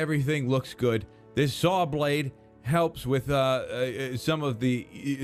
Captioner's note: stuttering